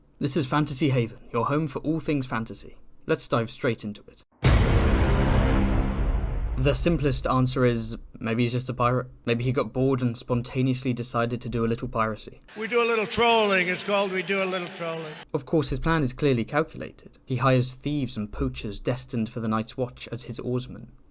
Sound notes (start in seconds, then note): 4.4 Inception BWONG